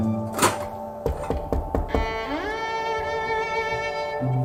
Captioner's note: Llama a la puerta; knocking on door